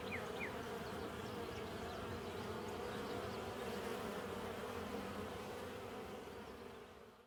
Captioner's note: bees buzzing and birds chirping